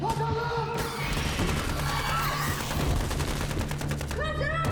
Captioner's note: guns firing